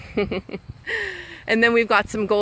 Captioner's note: laughing